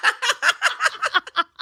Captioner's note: laughing